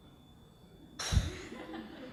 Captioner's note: laughter